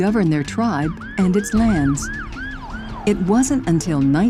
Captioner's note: siren blaring